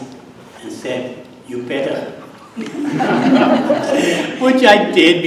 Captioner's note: audience laughs